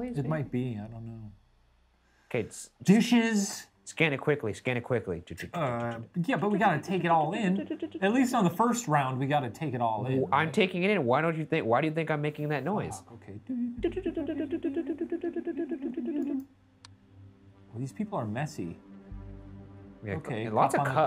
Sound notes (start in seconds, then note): 13.9 clicking their tongues